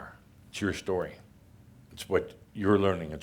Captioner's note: none